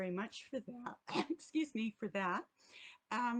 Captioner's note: coughs